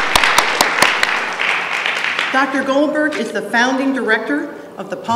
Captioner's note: applause